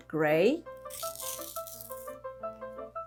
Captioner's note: card ripping